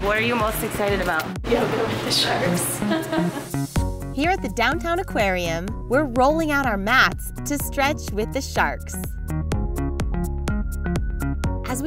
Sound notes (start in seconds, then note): 2.8 laughs; 9.5 upbeat music